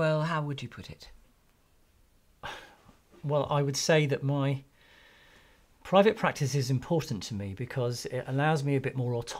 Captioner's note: sighs